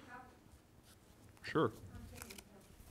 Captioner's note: woman off microphone interjects